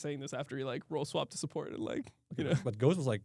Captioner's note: laughs